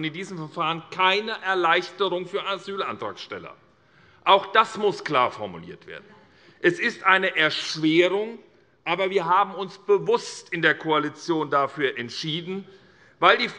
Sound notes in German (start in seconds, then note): none